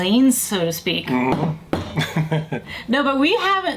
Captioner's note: chuckles